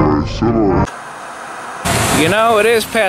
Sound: static hissing

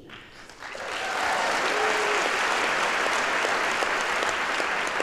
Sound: audience applauds

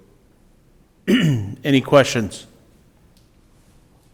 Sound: coughs

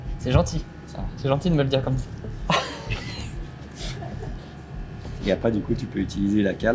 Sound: laughs

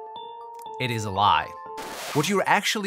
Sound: record album scratch

